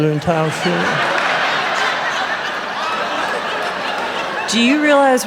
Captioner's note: raucous laughter